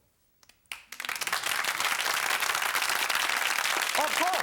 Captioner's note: audience applauding